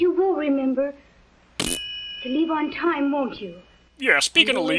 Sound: fart noise

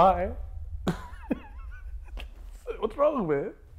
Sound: laughing

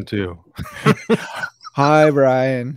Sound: laughing

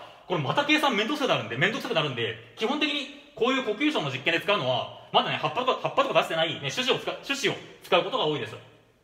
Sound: only breathing

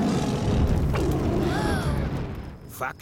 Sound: children gasp

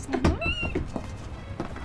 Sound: squeals

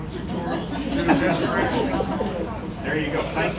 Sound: laughter

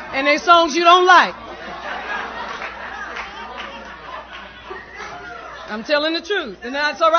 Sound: laughter

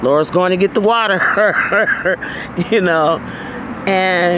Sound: laughing

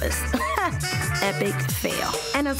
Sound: laughing

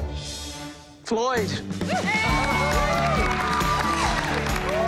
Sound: cheering

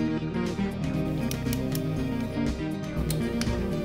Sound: background music; ratchet clicks; torque click

